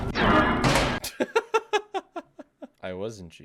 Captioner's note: laughs